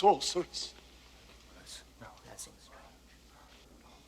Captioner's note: men whispering